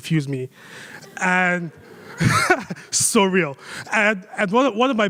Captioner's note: laughs